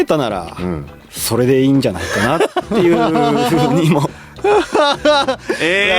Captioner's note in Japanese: 笑い